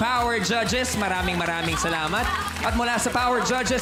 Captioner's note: applauding